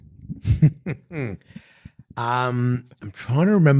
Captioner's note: laughing